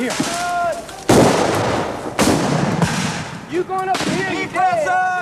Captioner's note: guns bang